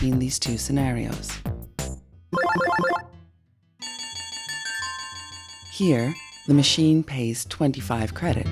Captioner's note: winning bells